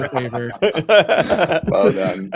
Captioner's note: laughter